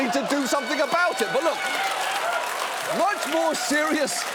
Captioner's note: audience cheering